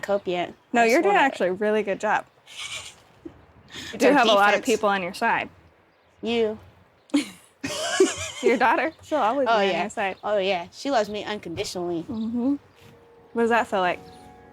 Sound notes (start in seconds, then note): 7.1 both laugh